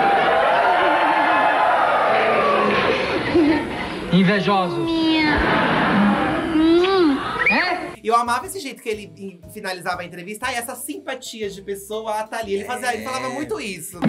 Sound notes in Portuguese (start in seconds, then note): 0.0 plateia exclama; 5.4 estalo de beijo